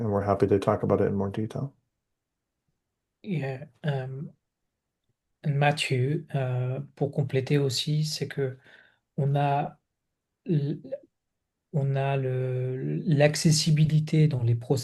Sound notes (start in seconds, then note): 6.5 speaks French